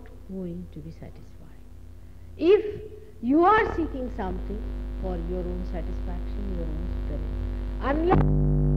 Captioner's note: noise in mp3